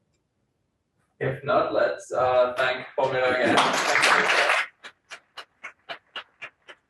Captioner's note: audience applauding